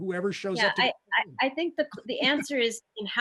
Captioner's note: giggles